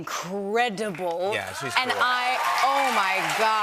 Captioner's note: cheers and applause